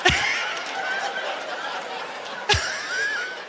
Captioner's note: laughs